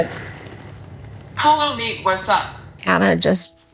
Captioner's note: iPad Speaker